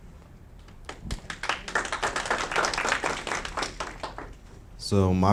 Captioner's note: audience clapping